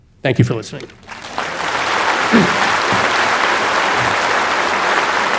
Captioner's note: audience applauding